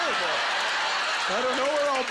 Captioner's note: audience laughter